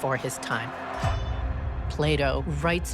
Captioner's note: warriors screaming